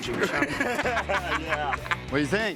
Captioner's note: laugh